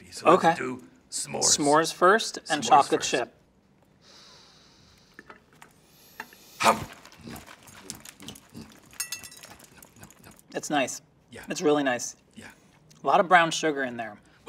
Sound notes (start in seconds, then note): 4.0 Cookie Monster sniffs deeply; 6.7 Cookie Monster munching quietly